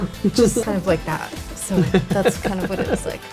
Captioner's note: laughs